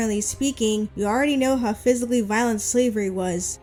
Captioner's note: none